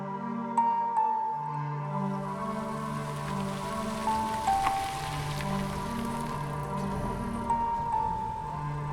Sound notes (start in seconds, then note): 2.0 car engine revving; 6.2 dramatic music